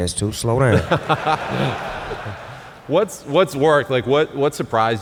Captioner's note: laughs